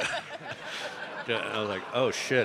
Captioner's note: all laughing